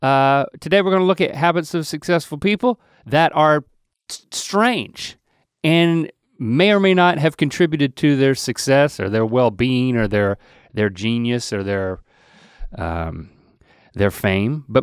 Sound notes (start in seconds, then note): none